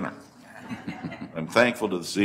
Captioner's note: laughter